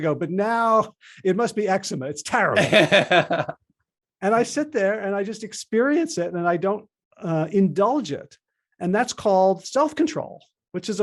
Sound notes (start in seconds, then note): 2.6 laughing